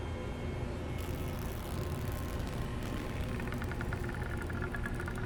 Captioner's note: cloth ripping